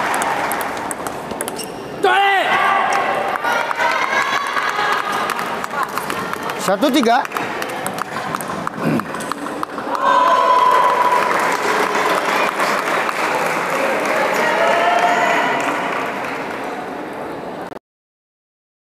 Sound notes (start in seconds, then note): 3.6 applause; 7.4 applause